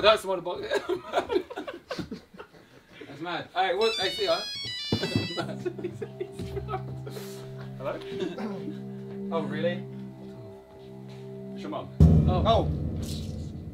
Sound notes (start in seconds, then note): 0.7 all laughing; 3.8 phone ringing; 5.7 tense music; 11.9 drum beats